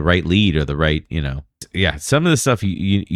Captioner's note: uh